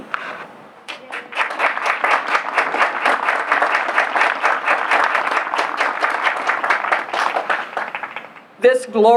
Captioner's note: applause